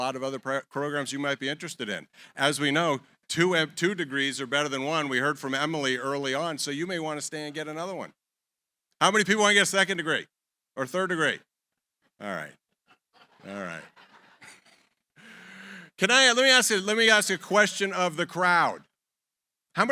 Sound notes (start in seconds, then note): 12.9 laughter